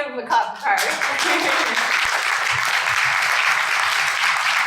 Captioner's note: audience claps